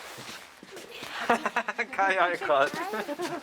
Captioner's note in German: Lachend